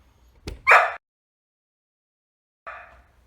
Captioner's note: woof